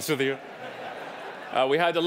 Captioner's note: audience laughing